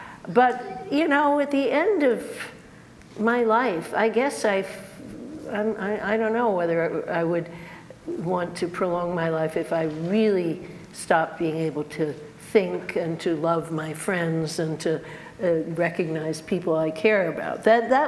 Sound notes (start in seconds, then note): none